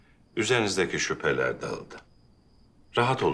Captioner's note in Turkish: none